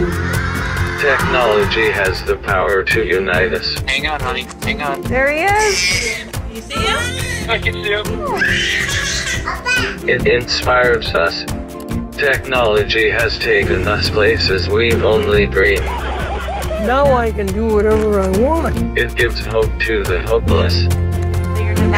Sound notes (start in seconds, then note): 0.0 children cheering; 1.2 electronic Voice; 5.4 baby crying; 10.3 electronic Voice; 16.2 cheering; 19.3 electronic Voice